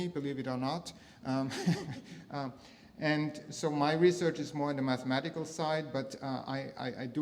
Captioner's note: laugh